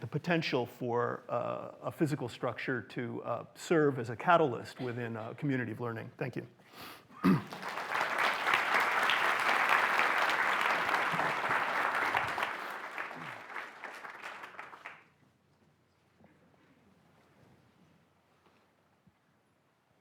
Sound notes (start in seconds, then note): 13.4 applause